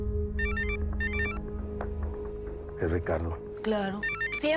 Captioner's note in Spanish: Suena el celular